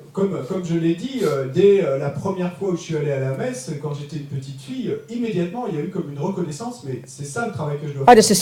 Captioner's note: French